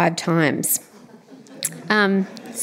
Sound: laughter

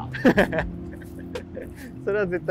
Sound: laughing

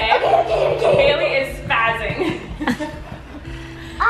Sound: laughs

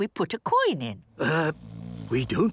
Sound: people snoring

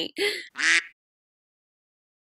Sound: quack

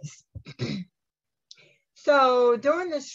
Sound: coughs

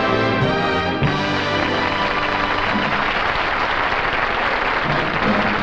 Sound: audience applauding

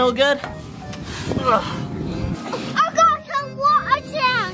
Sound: dad grunts

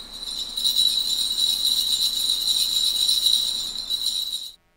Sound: bells jingling

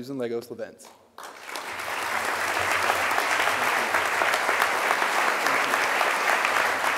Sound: audience applause

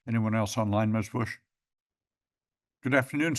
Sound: pause

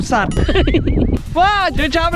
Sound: laughs

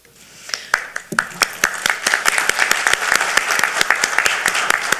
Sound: audience applauding

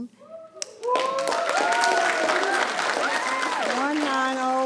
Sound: people cheering

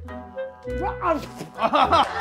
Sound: spitting out

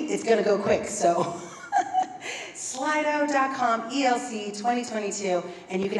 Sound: laugh

